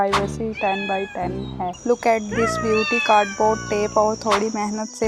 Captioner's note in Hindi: रोने की आवाज़